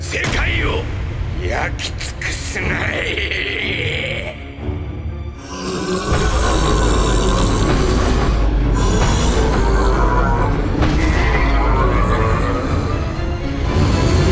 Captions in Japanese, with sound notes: 世界を焼き尽くすがいい （スルガトのうなり声） （スルガトのうなり声）